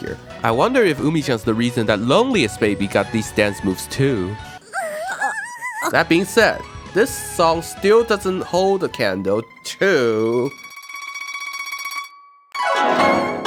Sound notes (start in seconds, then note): 4.6 panicking Hanayo noises; 4.6 nervous Umi noises